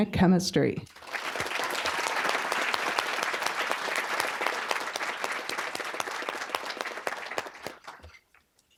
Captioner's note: applause